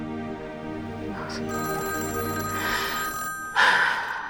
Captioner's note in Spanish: Suena el teléfono